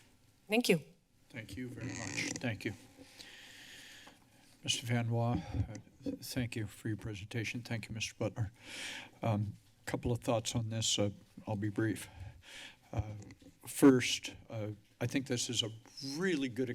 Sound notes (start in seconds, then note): 3.0 inhales heavily